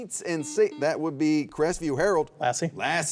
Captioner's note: buzzer beeps